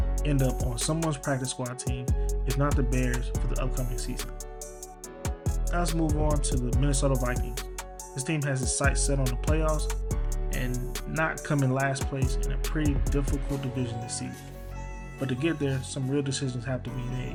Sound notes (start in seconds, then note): 6.5 voiceover